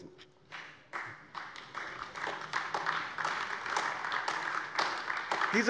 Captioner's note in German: Beifall AfD